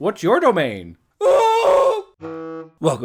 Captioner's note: Specter kills knight, who yells